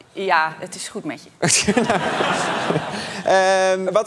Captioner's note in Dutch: gelach